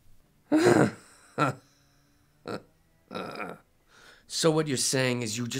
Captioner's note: grunts